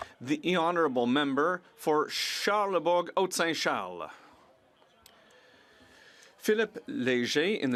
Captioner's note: speaking French